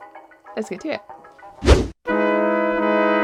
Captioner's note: swoosh sound effect